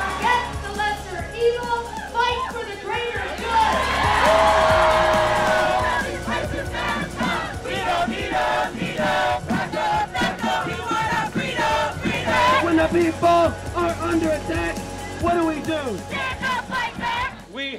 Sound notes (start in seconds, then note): 3.1 cheers and applause; 5.9 crowd; 16.2 crowd